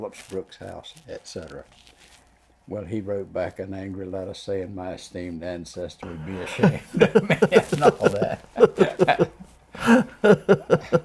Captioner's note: laughs